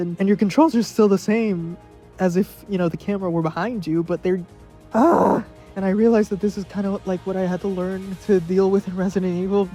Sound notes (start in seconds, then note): 4.9 exhasperated groan